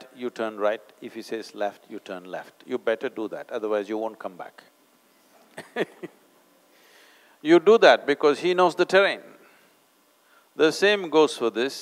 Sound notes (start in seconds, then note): 5.5 laughs